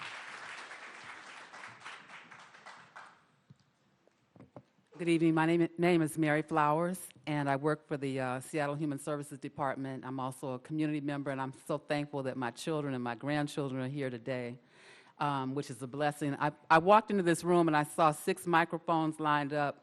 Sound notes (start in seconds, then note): 2.4 applause